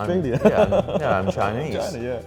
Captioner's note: short laughter